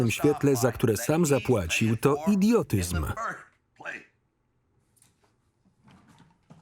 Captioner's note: coughing